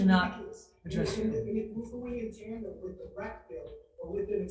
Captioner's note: faintly speaking